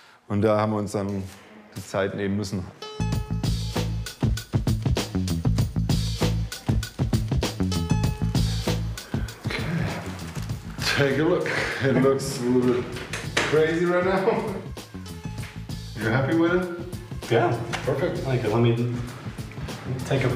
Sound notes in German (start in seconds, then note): 2.8 Aufgeweckte Musik; 10.8 englisch